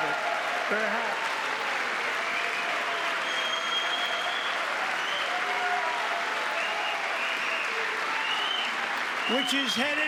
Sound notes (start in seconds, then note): 1.6 cheering; 3.8 applause